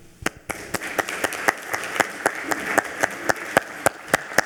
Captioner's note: attendees applauding